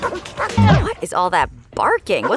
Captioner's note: dogs barking